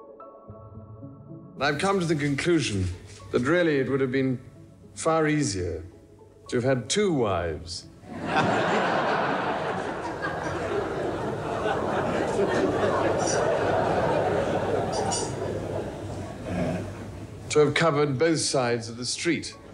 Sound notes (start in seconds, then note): 8.4 audience laughing